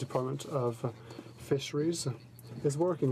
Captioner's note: speaking in french